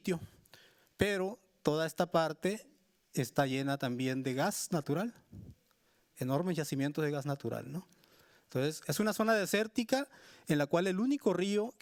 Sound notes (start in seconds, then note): 1.2 speaking Spanish continues